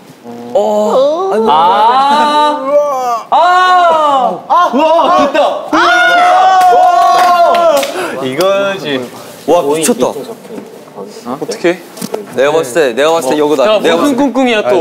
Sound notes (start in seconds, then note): 0.2 sliding; 9.4 whispering?